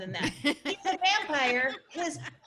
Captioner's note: laughing